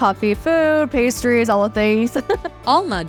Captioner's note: laughing